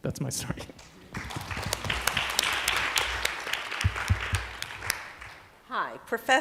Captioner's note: applause